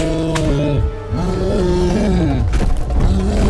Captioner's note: cyclops roaring